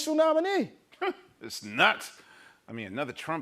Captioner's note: scoffs